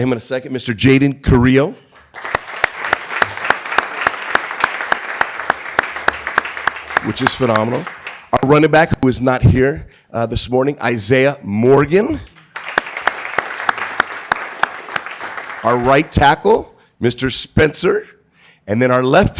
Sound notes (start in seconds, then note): 1.9 applause; 12.2 applause